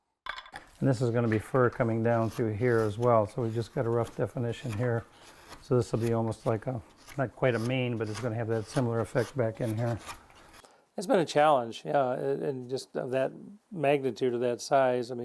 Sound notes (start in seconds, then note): 0.2 chisel clattering; 4.9 chisel scraping